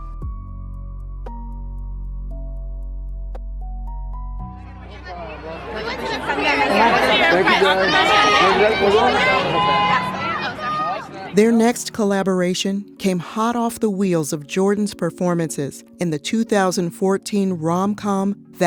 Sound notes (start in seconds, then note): 0.1 gentle music; 4.5 crowd noise